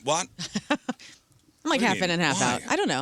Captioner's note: laughing